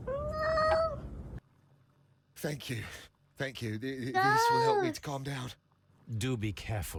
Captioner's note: meow